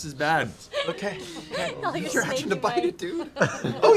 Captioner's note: laughter